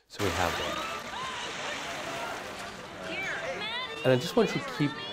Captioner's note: waves crashing and parents talking on screen